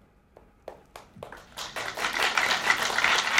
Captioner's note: applause